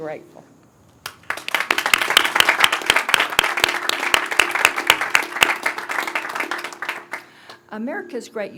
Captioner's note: applause